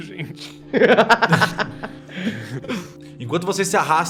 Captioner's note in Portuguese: risos